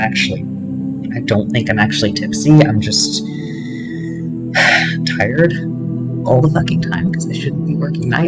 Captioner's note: sigh